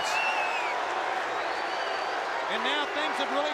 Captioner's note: crowd boos